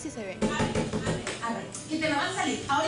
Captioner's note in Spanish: Golpes en la puerta